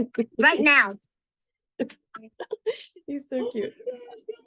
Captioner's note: laughing